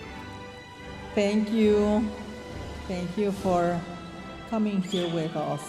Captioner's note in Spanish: hablando en inglés